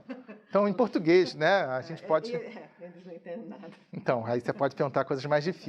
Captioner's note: chuckling; speaking in a foreign language